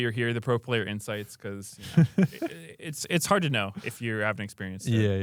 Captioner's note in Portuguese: risos